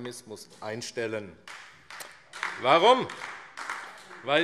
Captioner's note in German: Beifall AfD